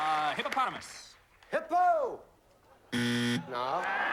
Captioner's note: buzzer